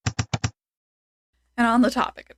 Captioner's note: typewriter sound effect